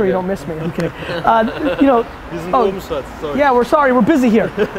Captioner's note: laughs